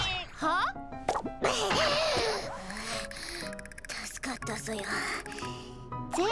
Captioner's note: cough